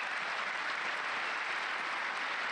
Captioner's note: applause